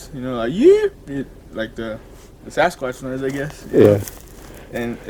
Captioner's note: yelps